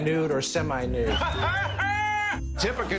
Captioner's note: laughs